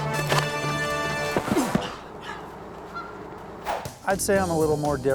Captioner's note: grunts